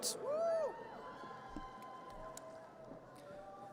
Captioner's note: audience cheers